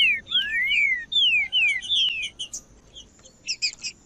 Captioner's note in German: trinca ferro cantando